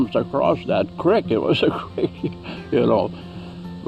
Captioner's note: chuckles